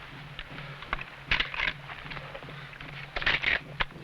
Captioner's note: rifle cocking